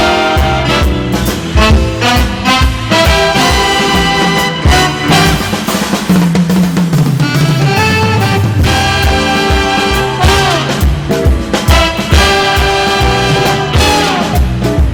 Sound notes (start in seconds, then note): 0.1 upbeat instrumental music continues; 6.0 audience applauding; 7.1 audience whistling